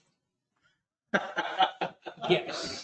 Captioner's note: laughter